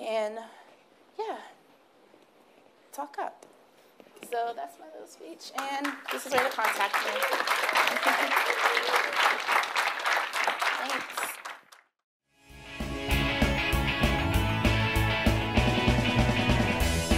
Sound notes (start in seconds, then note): 7.3 clapping; 12.6 upbeat music